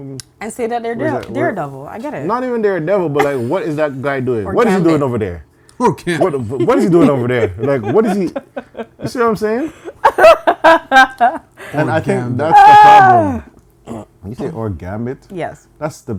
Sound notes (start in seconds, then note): 11.6 laughter